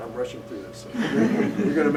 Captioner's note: laughter